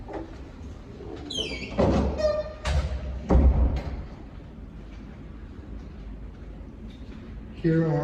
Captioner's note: door creaking